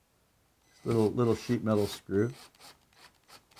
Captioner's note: drilling